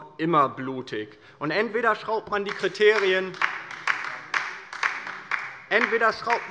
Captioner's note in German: Beifall bei der LINKEN